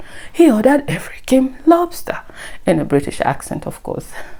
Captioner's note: in a british accent